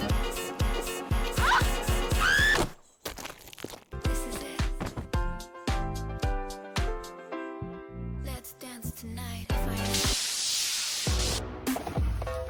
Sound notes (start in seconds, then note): 4.1 body thud